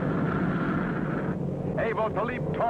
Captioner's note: train engine whooshing